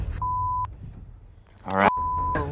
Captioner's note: beep